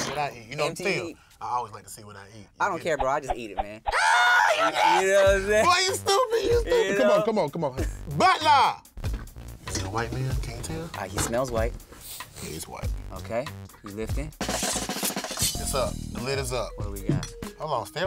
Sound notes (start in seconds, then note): 3.9 yells; 14.4 drumroll patters